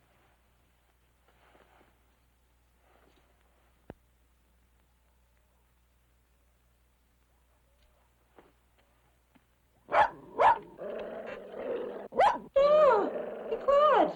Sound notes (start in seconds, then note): 9.8 dog barking